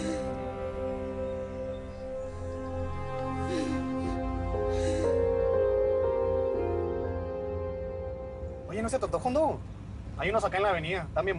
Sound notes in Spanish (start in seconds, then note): 3.2 Sollozos